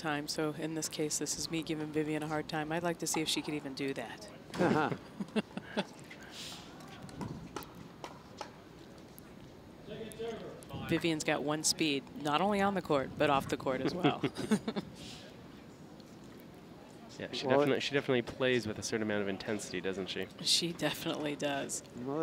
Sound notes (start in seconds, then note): 4.6 laughter; 13.8 laughing